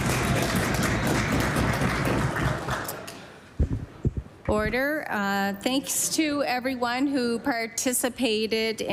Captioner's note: cheering & Applause